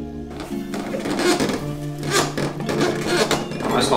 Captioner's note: squeeky bed